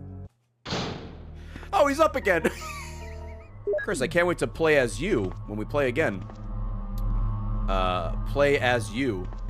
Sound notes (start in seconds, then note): 2.5 laughs